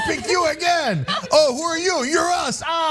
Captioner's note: laugh